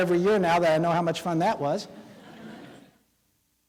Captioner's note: laughing